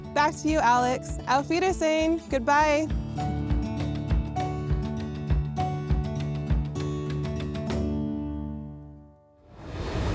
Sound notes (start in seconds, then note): 1.2 speaking German; 3.4 gentle upbeat music